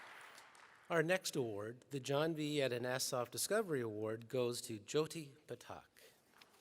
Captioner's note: applause